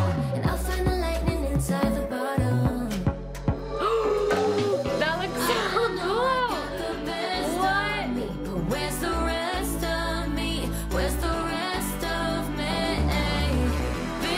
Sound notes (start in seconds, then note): 3.6 gasps